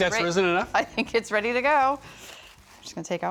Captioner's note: chuckling